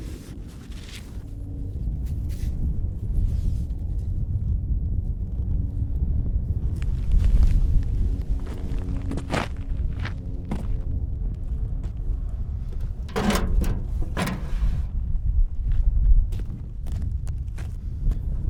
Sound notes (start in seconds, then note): 1.8 wind whistling continues; 8.4 footsteps crunching; 13.0 wheelbarrow rattles; 15.9 footsteps crunching